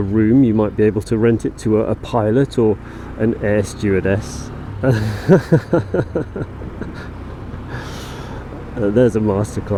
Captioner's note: laughs